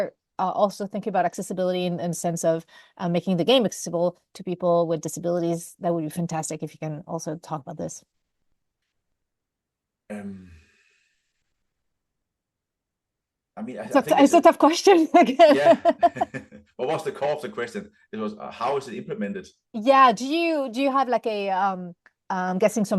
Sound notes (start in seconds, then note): 15.1 laughter; 15.2 laughs